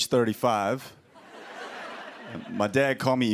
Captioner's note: laughter